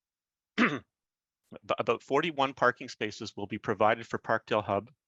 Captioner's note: clears throat